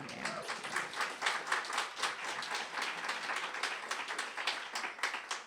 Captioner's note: audience applauding